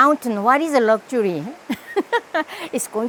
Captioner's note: laughs